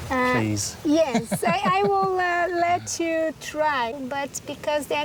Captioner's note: chuckles